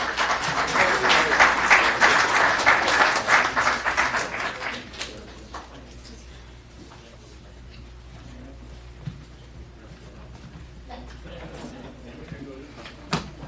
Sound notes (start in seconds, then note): 1.8 applause